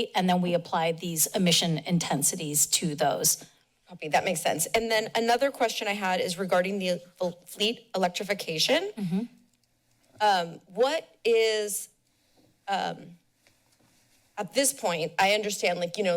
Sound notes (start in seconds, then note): 9.0 pause